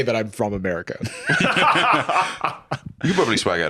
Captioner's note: laugh